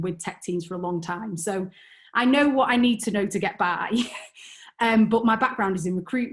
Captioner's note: chuckles